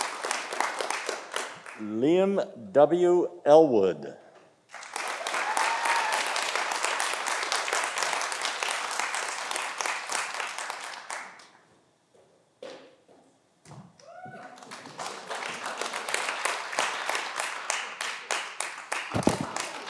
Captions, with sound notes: Lynn W. Elwood. (audience applauding)